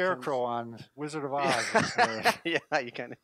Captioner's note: laughing